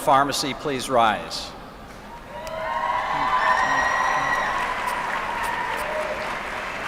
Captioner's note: applause